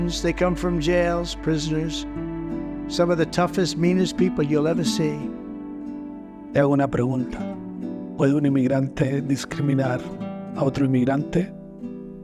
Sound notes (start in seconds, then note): 6.6 narrator speaking in foreign language